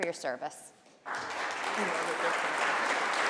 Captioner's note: applause